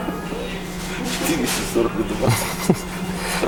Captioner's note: laughing